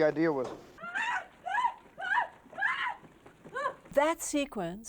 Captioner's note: Marion screaming